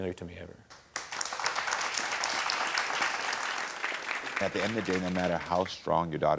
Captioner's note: audience applauding